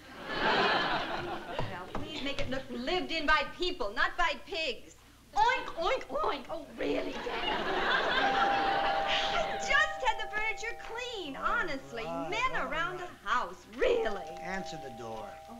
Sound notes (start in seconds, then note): 0.1 laughter; 6.8 laughter; 8.0 doorbell rings; 13.8 doorbell rings